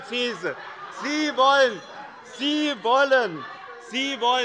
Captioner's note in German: Unruhe - Glockenzeichen der Präsidentin